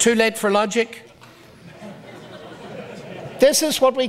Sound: audience laughs

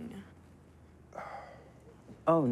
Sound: sighs

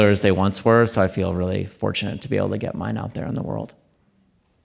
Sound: none

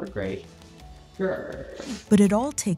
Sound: growls

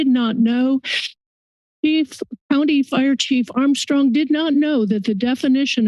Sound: sniffs

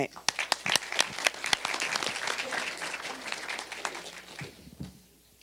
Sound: applause

